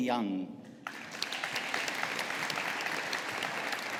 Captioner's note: audience applauding